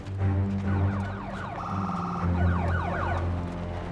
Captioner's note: emergency vehicle siren